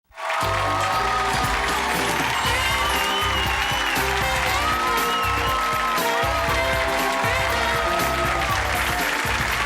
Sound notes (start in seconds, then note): 0.0 audience applause; 0.4 jazzy music